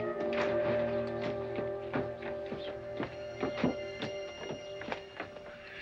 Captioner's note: footsteps down stairs